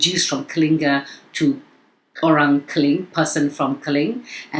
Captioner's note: speaking in foreign language